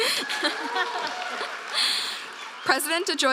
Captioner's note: applause